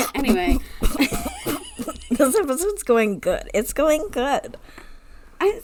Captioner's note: sputtering